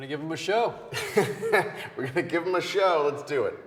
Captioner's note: Wes laughs